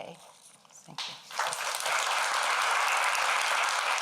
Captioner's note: applause